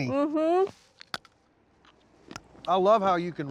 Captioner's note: crunching